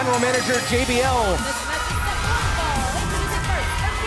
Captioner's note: bell ringing